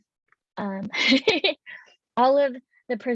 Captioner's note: laughs